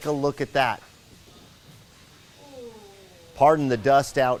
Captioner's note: electricity buzzing